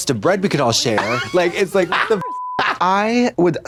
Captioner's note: beep